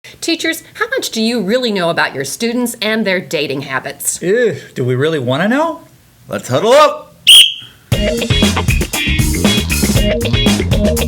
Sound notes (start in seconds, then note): 7.2 blows whistle; 7.9 upbeat music